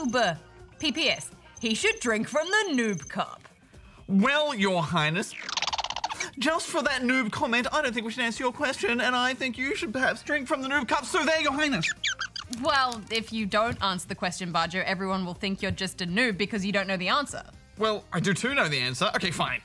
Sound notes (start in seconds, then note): 5.2 chittering